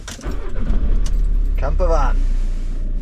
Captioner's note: van ignition rumbling